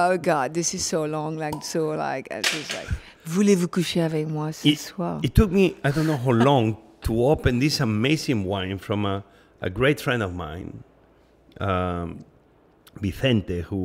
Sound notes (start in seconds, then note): 3.2 speaking in a foreign language